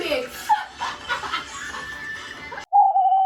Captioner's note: laughs